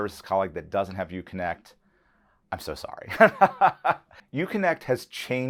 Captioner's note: laughs